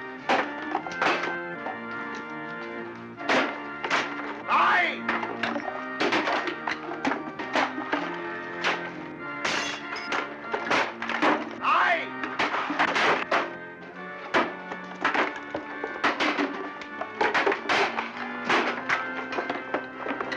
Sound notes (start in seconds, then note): 0.1 organ playing and chairs breaking; 3.2 whack; 5.2 organ playing and chairs breaking; 9.4 glass shattering; 10.2 organ playing and chairs breaking